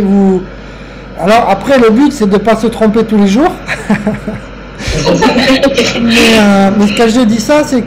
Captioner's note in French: rire